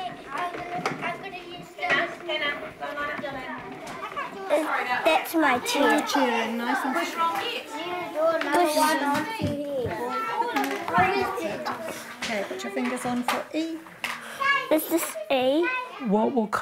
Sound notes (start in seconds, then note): 7.5 children making noises